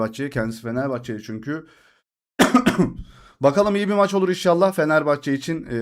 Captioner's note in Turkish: öksürme